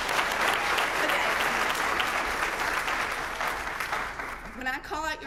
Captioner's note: applause